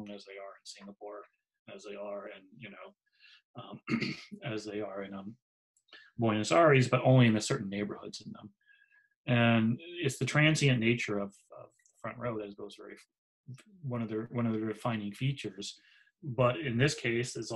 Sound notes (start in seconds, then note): 3.6 clears throat